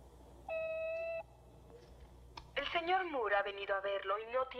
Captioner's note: intercom Beeps